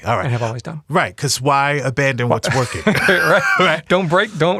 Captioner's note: laughing